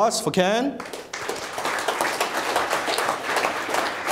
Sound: clapping

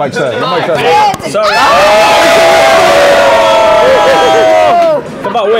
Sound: people yelling

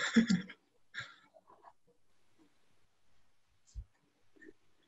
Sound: chuckles

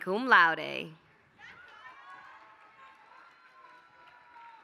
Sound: applause

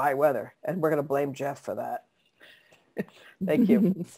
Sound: laughs

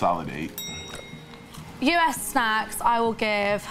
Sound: bell dings

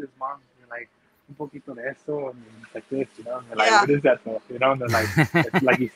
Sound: speaking in foreign language

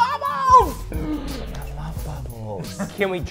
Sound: gasps

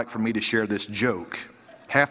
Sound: laughter

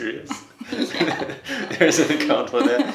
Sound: laughs

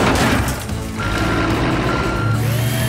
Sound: beeping

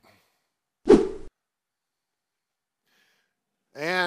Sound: whooshing sound

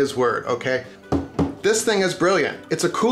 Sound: knocking

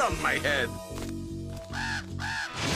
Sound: cawing

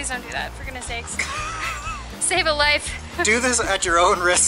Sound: laughter

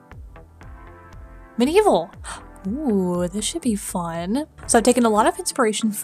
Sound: gasp

